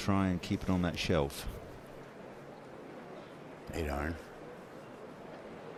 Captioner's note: none